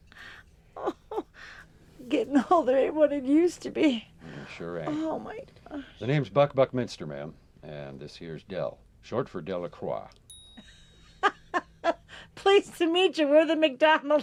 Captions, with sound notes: - (laughs) Oh, getting older ain't what it used to be. - No, it sure ain't. - Oh, my gosh. - The name's Buck Buckminster, ma'am. And this here is Del, short for DeLacroix. (tiny bell dings) - (laughs) Pleased to meet you, we're the McDonalds.